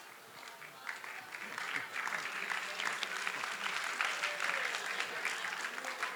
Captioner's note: applause